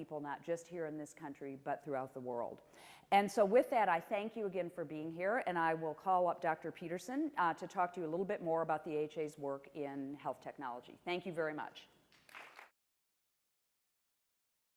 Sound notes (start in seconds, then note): 12.1 applause